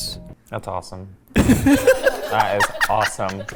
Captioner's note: everyone laughing